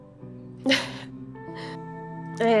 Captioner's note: laughter